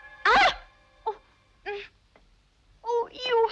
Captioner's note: Brigitte screams; Brigitte groaning